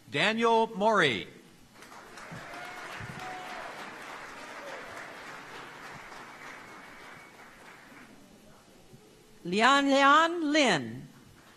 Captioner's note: applause